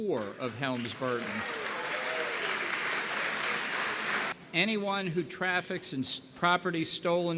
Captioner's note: applause